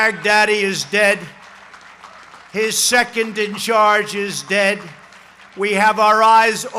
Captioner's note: applause